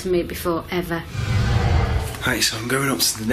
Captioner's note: hollow eerie echoing